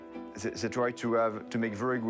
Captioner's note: with French accent